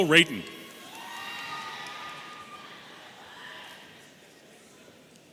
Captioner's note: audience cheering